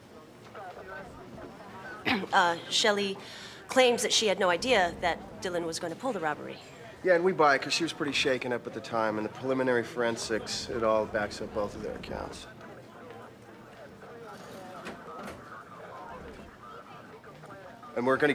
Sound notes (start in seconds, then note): 2.0 clears throat